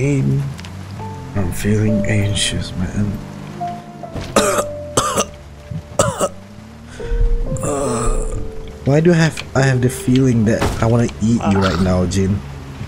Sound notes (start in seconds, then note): 4.1 cough; 6.9 groans